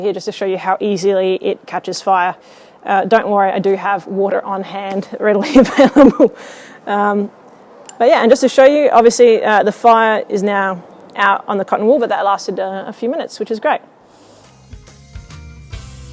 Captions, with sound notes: here just to show you how easily it captures fire. Don't worry, I do have water on hand (laughing) readily available. Just to show you, obviously the fire is now out on the cotton wool. That lasted a few minutes, which is great.